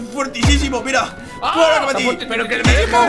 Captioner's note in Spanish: Grita